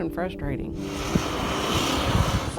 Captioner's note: construction equipment whirring